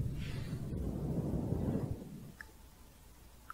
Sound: windy sounds

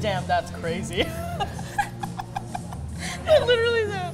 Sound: both giggle

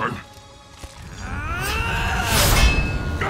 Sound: grunting

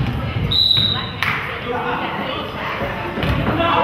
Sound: whistle blows

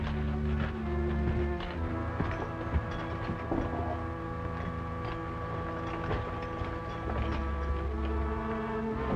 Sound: spurs jangling

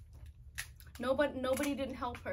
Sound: crab legs cracking

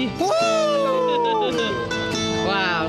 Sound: laughing

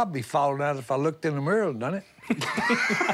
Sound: laughing

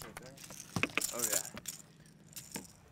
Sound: fish thrashing; tackle rattling

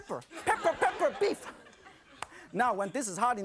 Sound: crowd; laughter

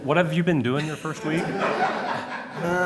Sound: laughter

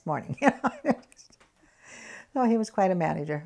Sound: laughs

